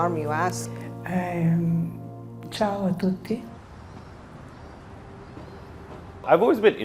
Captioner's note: speaking in foreign language